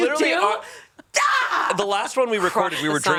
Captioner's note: yells